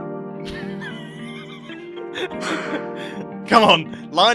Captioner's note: both laugh